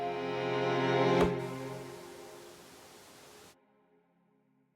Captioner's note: static tone